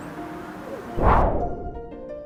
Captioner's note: whoosh